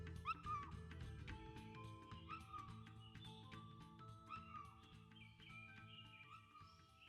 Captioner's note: faint Monkey Moo noises; forest ambience